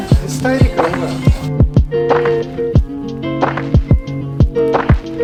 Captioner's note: speaking in foreign language